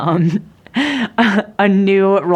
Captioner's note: chuckles